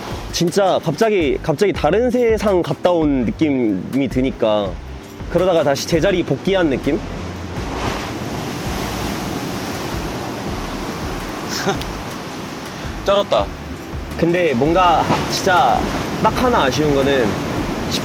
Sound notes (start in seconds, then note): 10.2 such wave sound